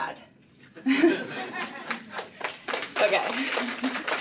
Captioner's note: laughter; applause